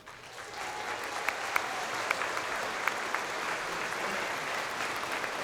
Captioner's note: crowd applauding